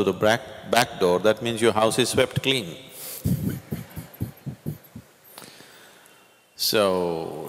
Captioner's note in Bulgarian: Смее се